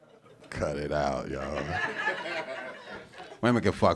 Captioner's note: audience laughing